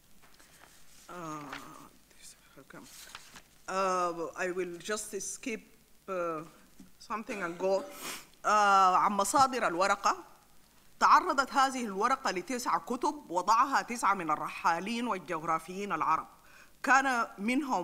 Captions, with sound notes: I will just skip something and go (sniffles). (speaks in foreign language)